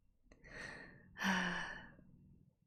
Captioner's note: sighs